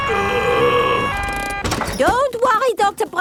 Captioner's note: groaning